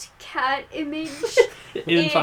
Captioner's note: laughs